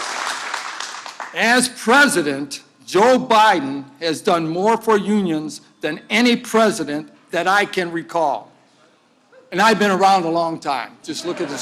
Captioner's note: applause